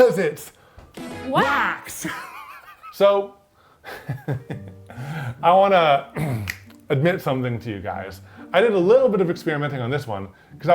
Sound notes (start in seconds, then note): 2.0 laughing; 6.1 upbeat music; 6.4 fingers snapping